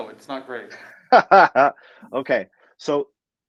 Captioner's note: laughs